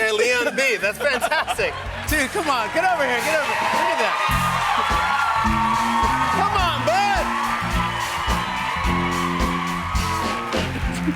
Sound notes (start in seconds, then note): 7.5 cheers and applause